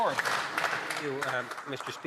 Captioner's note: some Applause